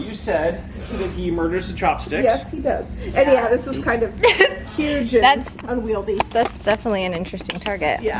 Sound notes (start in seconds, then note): 4.1 giggles